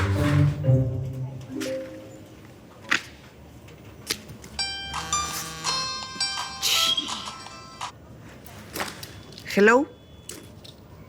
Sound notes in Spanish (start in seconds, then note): 5.6 Suena un celular